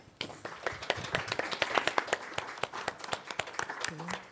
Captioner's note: applause